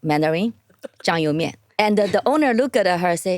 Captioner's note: speaking in foreign language